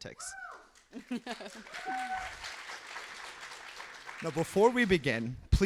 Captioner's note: applause, cheering